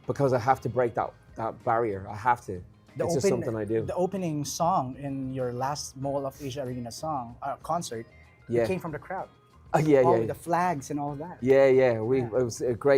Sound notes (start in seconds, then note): none